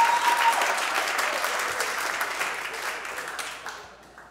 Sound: audience whistles; audience applauds

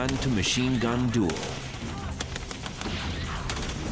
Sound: gunshots

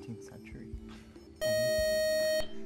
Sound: time-out buzzer

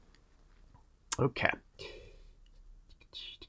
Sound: vocalizing

